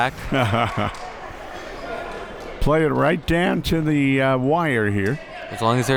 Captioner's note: laughs